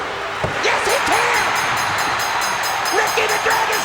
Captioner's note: bell ringing